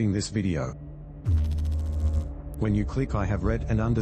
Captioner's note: electrical noise